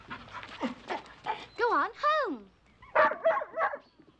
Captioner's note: barking